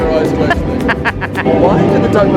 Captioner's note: laughing